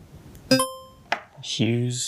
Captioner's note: buzzer ringing